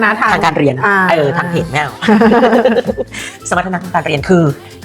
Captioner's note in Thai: เสียงหัวเราะ